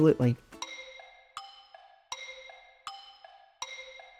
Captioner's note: clock ticking